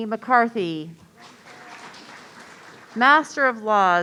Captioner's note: audience applauding